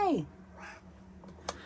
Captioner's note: meows